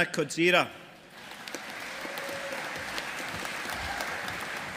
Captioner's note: audience applauding